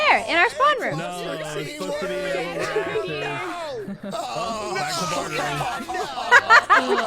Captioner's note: group commotion in distance; laughs